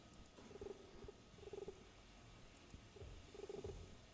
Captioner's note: text beeping